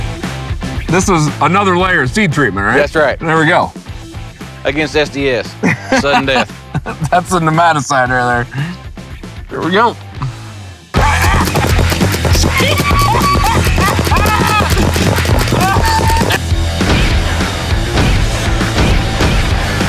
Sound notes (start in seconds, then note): 11.0 paintball gun shooting; 12.9 laughing; 15.8 rock music